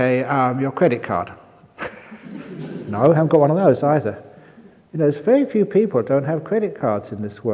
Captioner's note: laughter